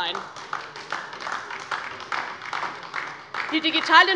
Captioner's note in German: Beifall DIE LINKE